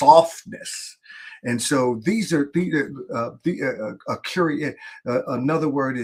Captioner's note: stammers